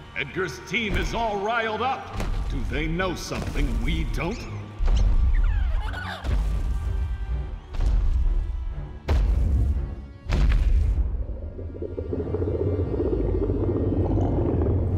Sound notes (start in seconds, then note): 4.8 stomping; 11.2 growling